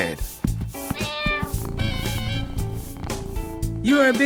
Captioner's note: cat meows and purrs